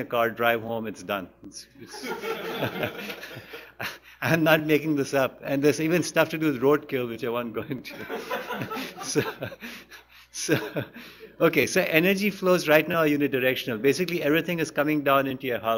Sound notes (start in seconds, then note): 1.8 laughter; 1.8 laughs; 7.9 laughs; 10.2 laughter; 10.4 laughs